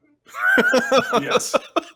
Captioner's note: laughter